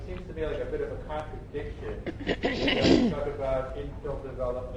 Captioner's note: clears throat